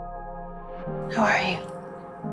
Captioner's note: voiceover